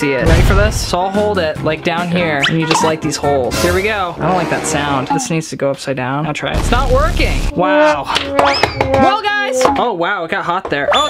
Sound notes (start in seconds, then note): 6.5 comical blasting; 8.9 failing music